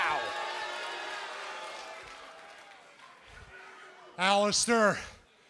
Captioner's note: crowd cheering